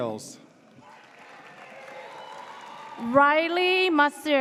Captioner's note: audience cheers